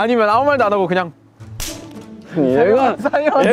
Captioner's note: snaps